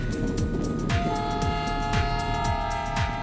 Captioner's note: train whistle blows